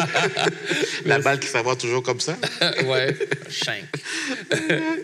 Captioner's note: laughs; laughs